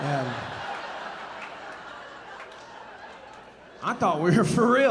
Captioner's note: audience laughing